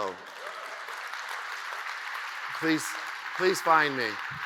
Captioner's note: audience cheers and applauds